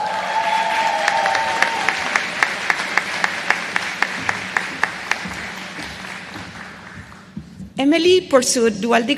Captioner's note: applause